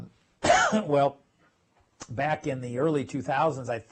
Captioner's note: cough